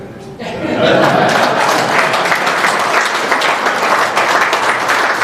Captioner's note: applause